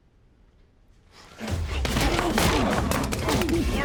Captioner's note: grunting; gun falls